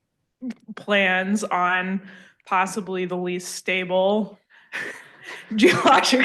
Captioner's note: laughs